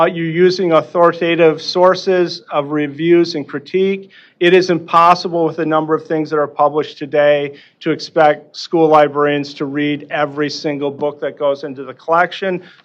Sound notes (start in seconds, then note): none